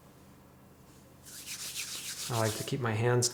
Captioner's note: hands rubbing together